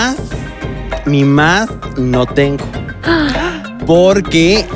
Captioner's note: gay gasp